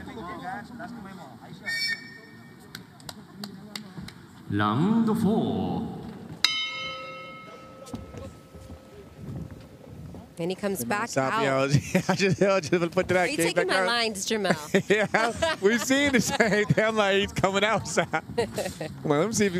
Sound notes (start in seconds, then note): 9.7 bell ring